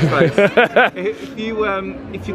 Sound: laughs

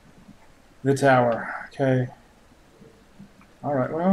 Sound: sighs

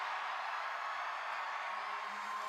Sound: song ends, cheers and applause

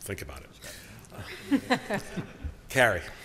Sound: laughter

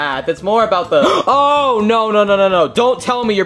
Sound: gasps

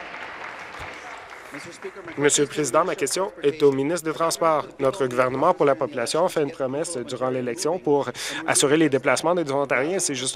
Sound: some Applause

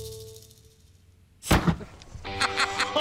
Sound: gunshot; Rick laughing

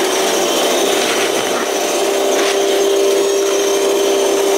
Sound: engine whining

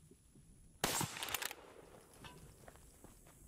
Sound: gunshot

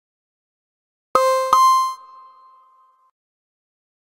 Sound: sound of tone

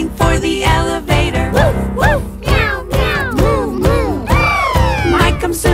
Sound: woof woof, meow meow, moo moo, bbbppp!

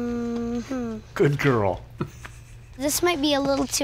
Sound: chuckles

